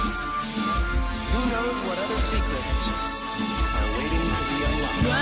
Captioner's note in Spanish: more susurros